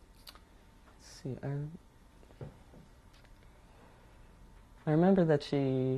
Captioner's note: pauses for 3 seconds